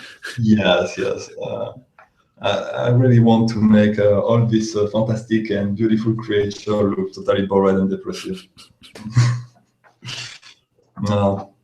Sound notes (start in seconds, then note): 8.1 both laughing